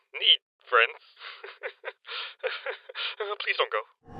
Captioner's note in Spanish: Risa nerviosa y forzada